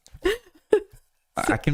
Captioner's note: laughs